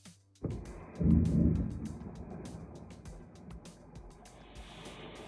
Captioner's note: slow motion splat